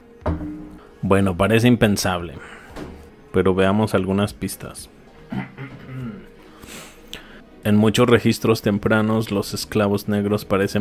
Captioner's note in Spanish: resoplido